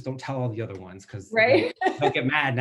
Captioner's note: laughs